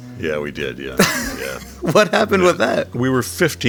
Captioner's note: laughing